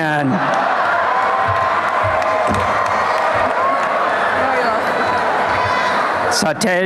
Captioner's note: crowd cheers and laughs